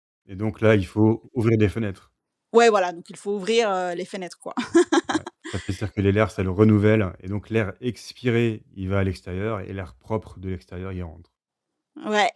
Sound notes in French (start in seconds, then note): 4.6 rires